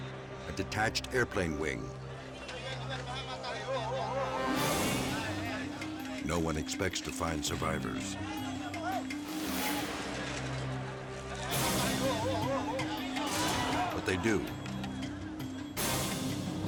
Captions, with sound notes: A detached airplane wing. (dramatic music) No one expects to find survivors. (bystanders chatter) But they do.